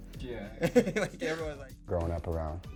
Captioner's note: laughs